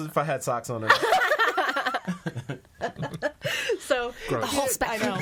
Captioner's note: all laughing